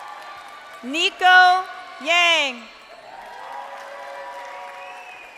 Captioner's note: crowd cheering